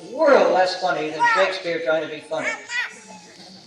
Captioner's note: laughter